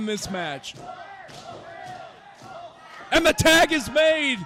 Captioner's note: stomping and chanting